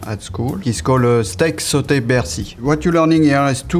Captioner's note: speaking in foreign language